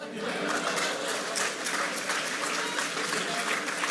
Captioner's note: audience applauds